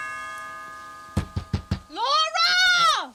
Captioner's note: bell ringing; door knocking